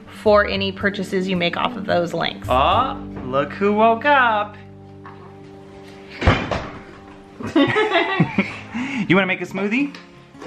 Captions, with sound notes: for any purchases you make off of those links. - Look who woke up! (laughter) You wanna make a smoothie?